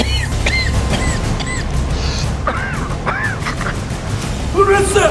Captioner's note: coughing